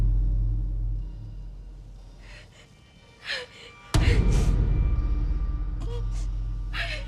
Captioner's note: Jane cries